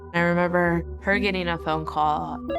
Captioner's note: telephone ringing